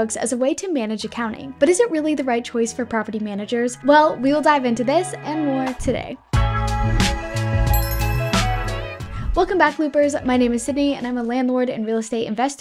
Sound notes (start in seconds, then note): 6.4 mellow music; 7.7 logo chiming